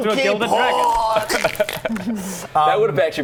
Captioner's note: death gurgle